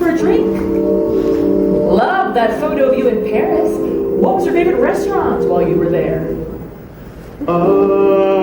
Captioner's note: oooooooooooh